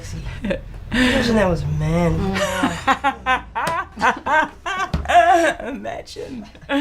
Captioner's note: laughs